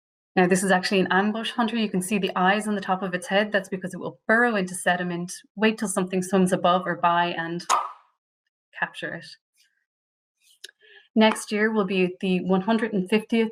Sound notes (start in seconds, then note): 11.2 clap